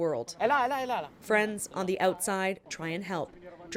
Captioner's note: speaking Foreign Language